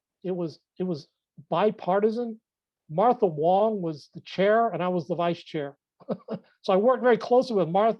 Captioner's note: laughs